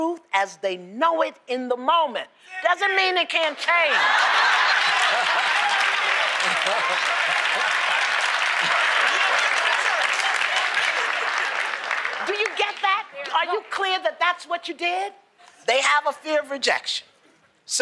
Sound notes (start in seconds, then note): 3.8 laughter; 4.0 applause